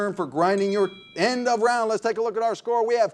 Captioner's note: bell rings